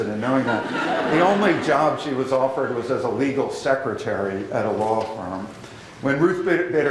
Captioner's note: laughter